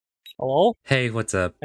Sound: beep

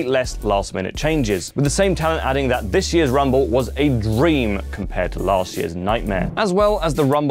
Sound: rumble

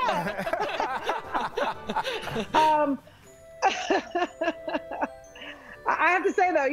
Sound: laughter; laughter

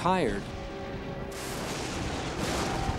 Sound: thunder

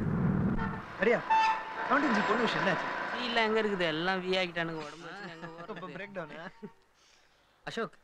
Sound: indistinct Voices

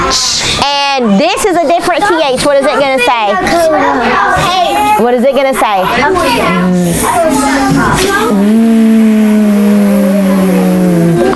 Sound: buzzing

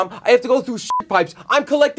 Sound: beep

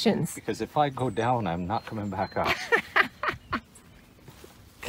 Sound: laughing

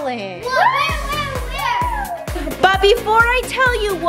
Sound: screams

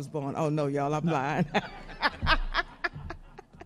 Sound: laughs; audience laughs

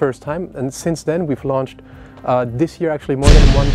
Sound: bang

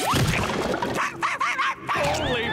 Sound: barking

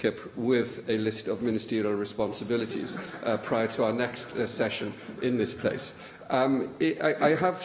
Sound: laughter

